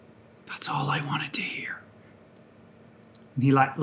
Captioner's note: whispers